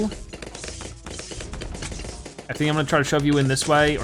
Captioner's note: weapons firing